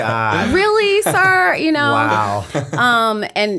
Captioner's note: chuckle